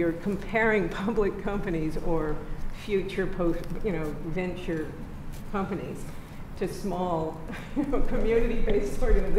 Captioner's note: laughs